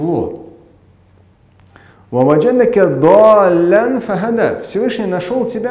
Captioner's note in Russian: Говорит на арабском